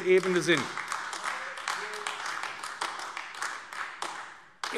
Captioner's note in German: Beifall AfD